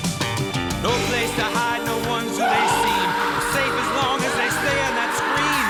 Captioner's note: screaming